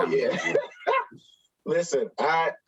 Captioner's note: laughs